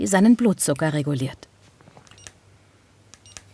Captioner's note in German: Piepsen